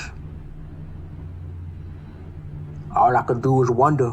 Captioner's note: noisy neighborhood